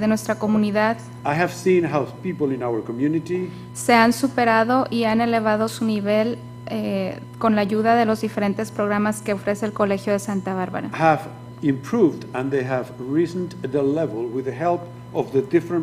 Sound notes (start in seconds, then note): 0.8 speaking foreign language; 3.7 speaking foreign language; 12.3 speaking foreign language; 15.0 speaking foreign language